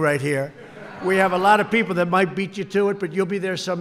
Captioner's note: laughter